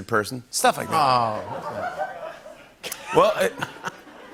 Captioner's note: laughter; laughs